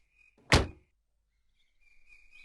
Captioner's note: car Door Closes